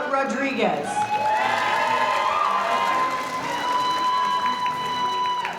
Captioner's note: audience cheering; audience applauding